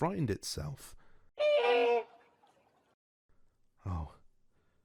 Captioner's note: distressed quack sfx